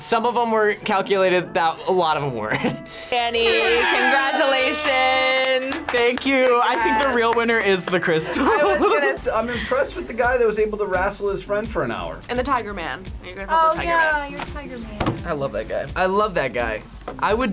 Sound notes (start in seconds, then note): 3.4 laughs; 5.0 air horns blaring; 7.9 laughs